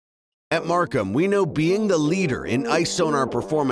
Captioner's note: voiceover